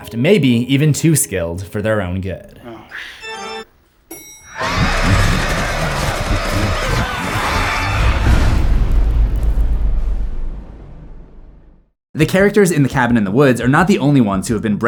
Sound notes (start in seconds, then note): 4.5 screams; 8.4 impact